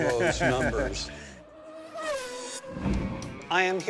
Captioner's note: engine humming